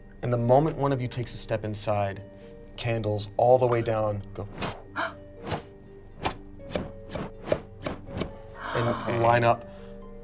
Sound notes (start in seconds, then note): 4.6 blows